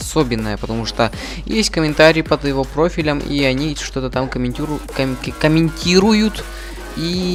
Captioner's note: stutter